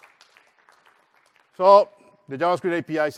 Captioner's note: applause